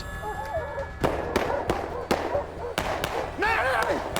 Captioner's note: gunfire